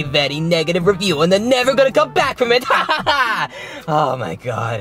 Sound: laughing

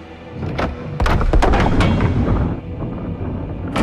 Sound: mechanism moving

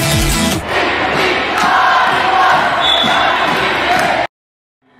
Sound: crowd chanting

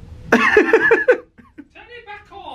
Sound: laughs

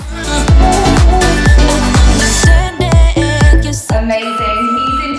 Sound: countdown timer beeping

